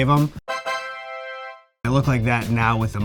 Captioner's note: horns blowing